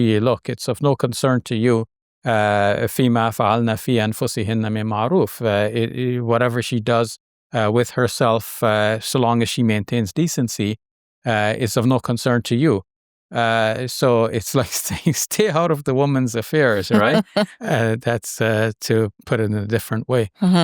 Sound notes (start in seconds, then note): 2.9 speaking in foreign language